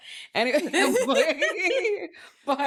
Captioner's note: laughing